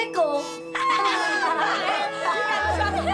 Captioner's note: all laughing